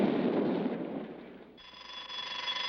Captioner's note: alarm ringing